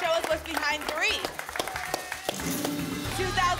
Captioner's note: clapping